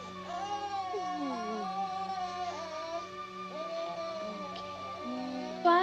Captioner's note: baby cries